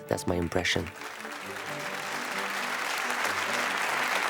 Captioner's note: all applauding